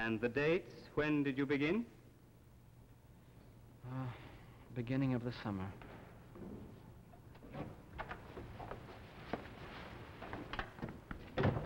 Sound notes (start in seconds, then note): 3.8 Fernand, sighing; 7.9 door opening, slamming shut